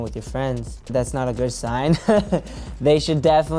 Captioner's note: laughs